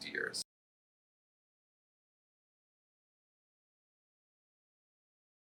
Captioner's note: silence